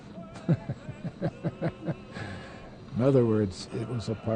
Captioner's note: laughs